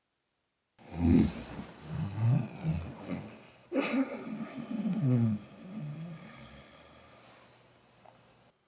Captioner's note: sound of snoring